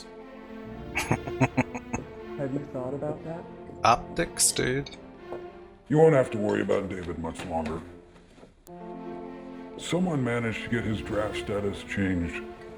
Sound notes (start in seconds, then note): 0.9 chuckling